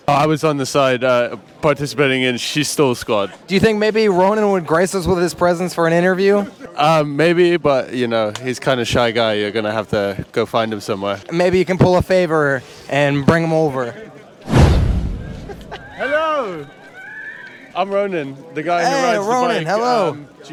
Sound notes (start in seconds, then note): 14.4 whooshing noise